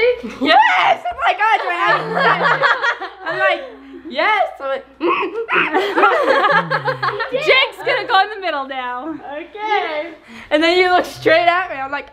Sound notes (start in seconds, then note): 1.3 family laughs; 5.0 grunts